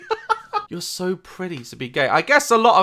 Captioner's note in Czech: smích